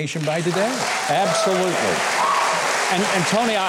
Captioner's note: applause